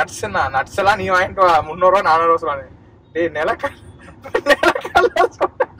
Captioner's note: laughs